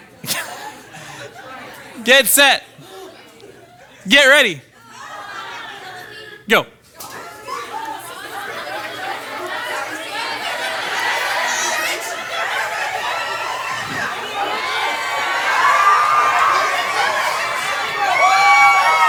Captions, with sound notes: Get set. Get ready. Go. (participants excitedly conversing) (participants cheering)